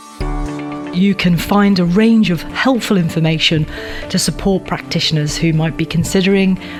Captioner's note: voiceover